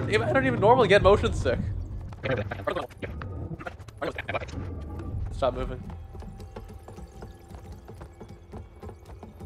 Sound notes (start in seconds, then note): 2.2 sped up dialogue